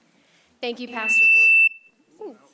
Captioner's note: microphone squeal